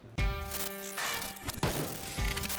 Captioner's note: guitar plays while gun fires; glitching